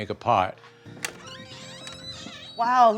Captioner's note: door creaking